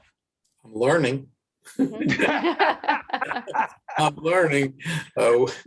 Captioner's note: laughing